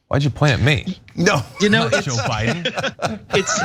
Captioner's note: laugh